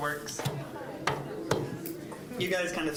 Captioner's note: general chatter